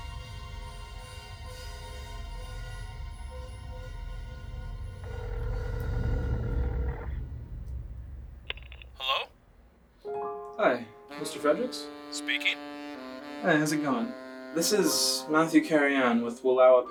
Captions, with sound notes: (phone ringing) Hello? Hi, Mr. Fredericks? Speaking. Hi, how's it going? This is Matthew Carrianne with Wallowa